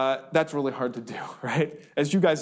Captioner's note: laughs